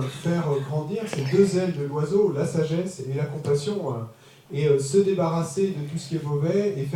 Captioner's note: French